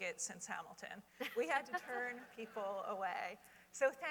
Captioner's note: laughter